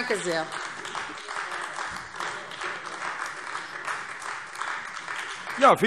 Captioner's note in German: Beifall AfD